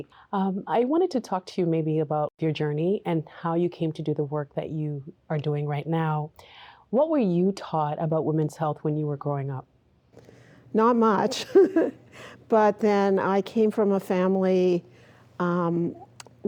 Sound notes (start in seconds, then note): 11.2 laughing